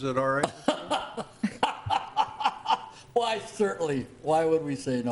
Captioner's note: laughing